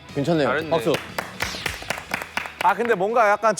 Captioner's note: Tepuk tangan